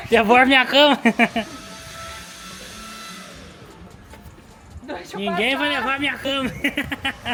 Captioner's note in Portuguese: risadas; risadas